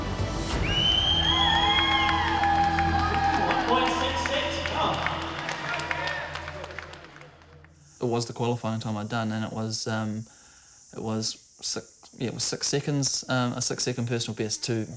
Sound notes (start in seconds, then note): 0.4 whistling and applause